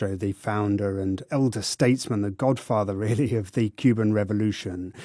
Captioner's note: laughs